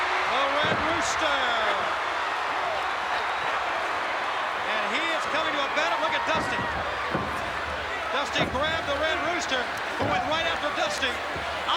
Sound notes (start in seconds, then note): 0.0 applause